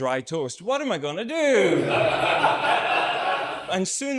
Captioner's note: audience laughs